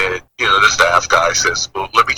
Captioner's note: none